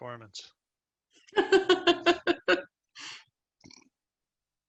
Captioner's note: laughs